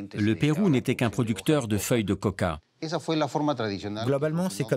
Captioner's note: Spanish spoken audio